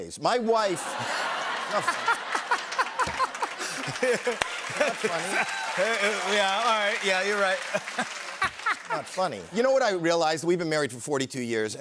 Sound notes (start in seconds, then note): 0.7 laughter; 2.7 laughter and applause